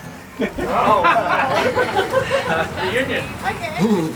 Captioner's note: group laughing